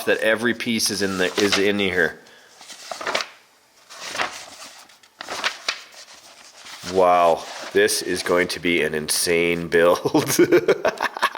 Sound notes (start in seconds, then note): 10.2 laughs